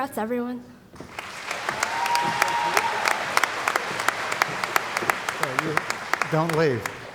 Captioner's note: cheering & Applause